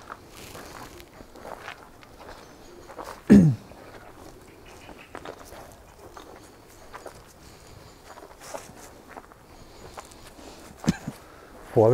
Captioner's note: wind an birds in the background